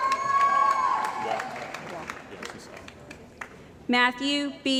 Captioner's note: cheering & Applause